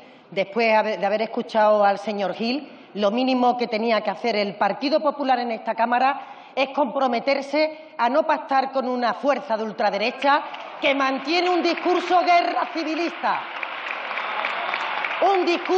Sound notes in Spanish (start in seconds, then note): 14.1 aplausos